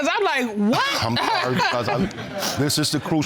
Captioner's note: laughs